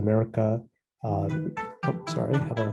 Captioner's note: cell phone ringing